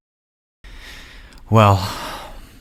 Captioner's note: deep beath